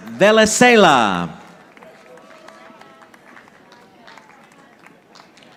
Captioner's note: audience applauding